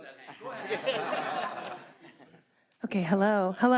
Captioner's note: audience laughing